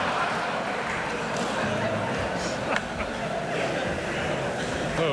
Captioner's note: audience laughs